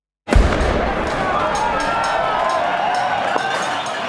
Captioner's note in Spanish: Disparo y cacerolazo